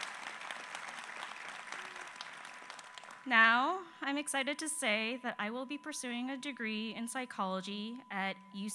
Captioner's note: applause